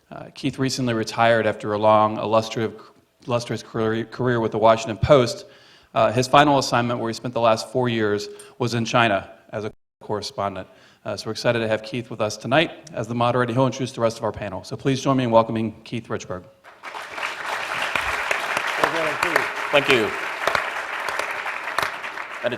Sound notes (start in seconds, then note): 16.6 applause